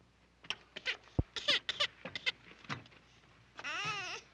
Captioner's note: baby crying